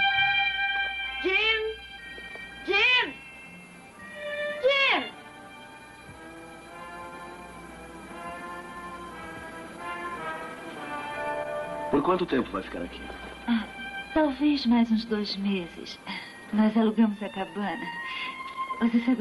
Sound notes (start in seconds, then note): none